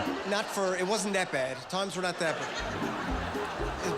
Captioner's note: laughter